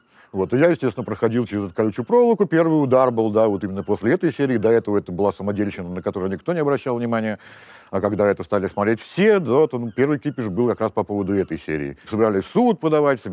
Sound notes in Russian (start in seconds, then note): none